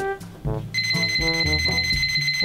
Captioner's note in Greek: μπιμπ